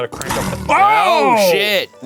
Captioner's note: shouts